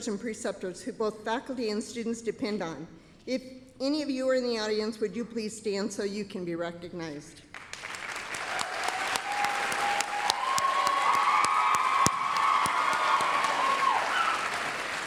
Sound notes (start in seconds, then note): 7.5 applause, cheering